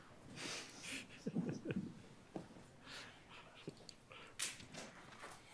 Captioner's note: judge chuckling